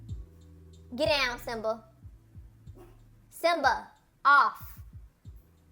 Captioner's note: high pitch voice